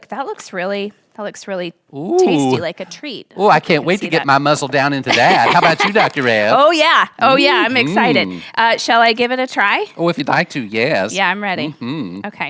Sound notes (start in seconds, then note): 5.0 laughing